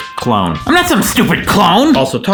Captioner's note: shouts